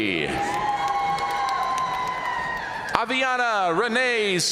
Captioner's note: audience cheering and applauding